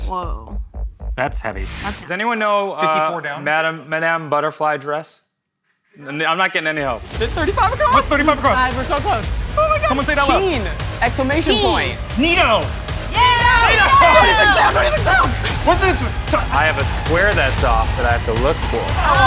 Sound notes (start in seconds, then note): 13.2 all chatting excitedly